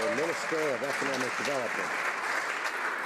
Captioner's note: some Applause